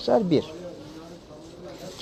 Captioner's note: crowd Noises